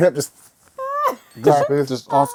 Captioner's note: laughter